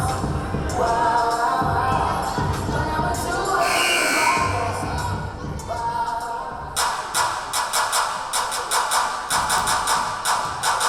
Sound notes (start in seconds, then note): 3.6 buzzer blaring; 6.7 rhythmic clapping